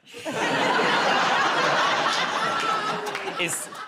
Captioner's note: laughter